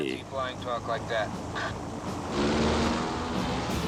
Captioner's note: plane engine roaring